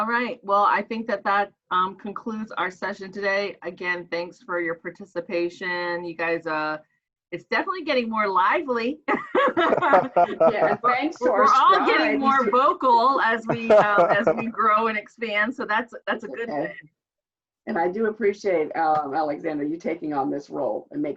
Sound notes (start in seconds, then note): 9.2 laughs